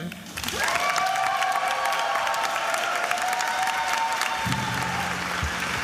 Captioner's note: attendees applauding and cheering